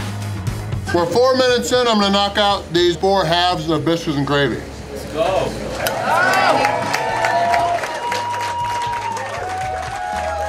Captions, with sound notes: We're 4 minutes in. I'm going to knock out these four halves of biscuits and gravy. [Crowd] Let's go!! (cheering)